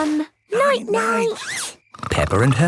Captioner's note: snores